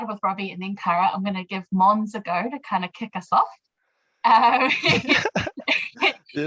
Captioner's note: laughs